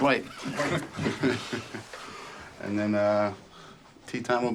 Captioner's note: laughs